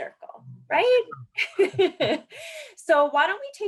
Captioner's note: laughs